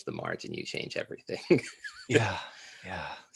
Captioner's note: laughs